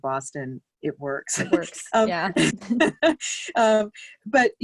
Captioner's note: laughs